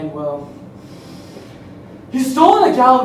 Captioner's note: unnecessarily dramatic inhale